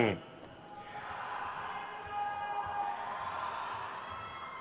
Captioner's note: crowd cheers